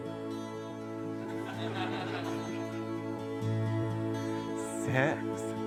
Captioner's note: laughter